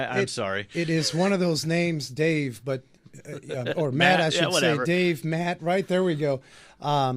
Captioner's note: laughs